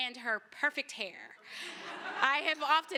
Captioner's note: laughter